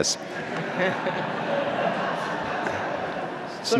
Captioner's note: laughter